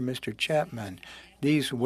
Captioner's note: speaking in French